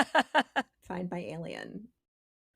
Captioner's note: laughing